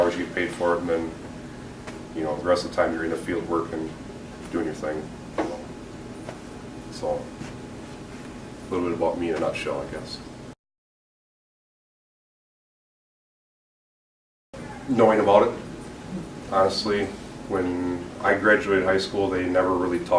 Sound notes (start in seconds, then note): 10.5 silence